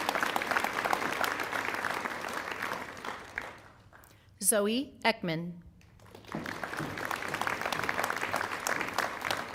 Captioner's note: applause